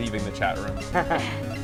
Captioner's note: laughter